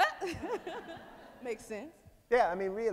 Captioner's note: laughs